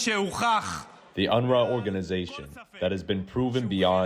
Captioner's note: through translator